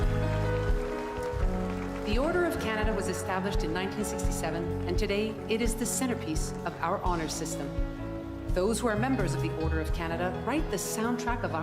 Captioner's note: cheers and Applause